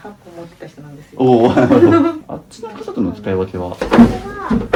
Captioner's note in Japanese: 笑い